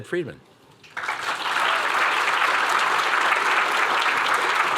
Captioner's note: applause